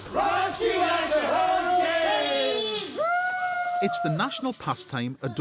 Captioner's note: all cheering